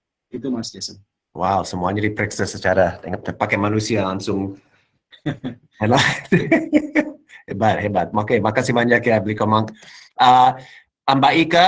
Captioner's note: non-english speech